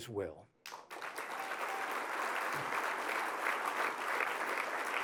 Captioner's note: applause